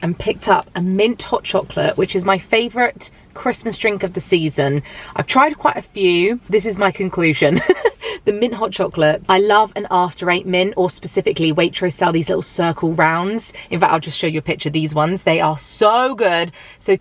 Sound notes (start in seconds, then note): 7.5 laughs